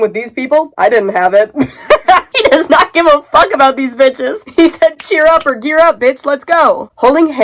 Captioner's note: laughing